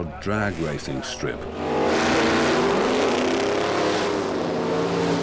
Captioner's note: engine revving